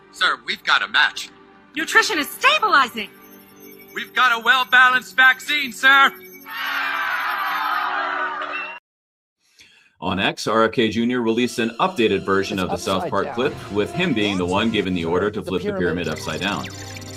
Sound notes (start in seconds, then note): 6.5 cheering